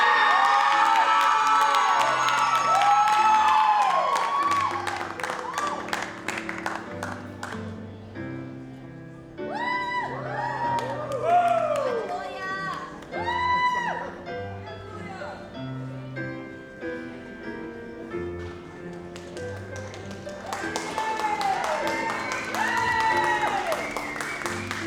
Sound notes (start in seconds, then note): 0.0 audience cheers and applauds; 10.0 audience cheers; 20.9 audience cheers and applauds